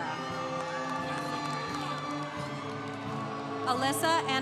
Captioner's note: congregation cheering